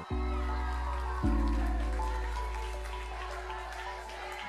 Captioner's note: crowd cheers